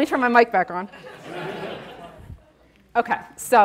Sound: audience laughing

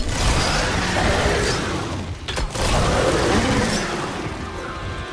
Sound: gunshots booming; tense dramatic music

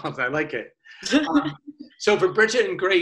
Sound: laughs

